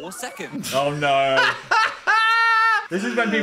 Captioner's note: Dan laughs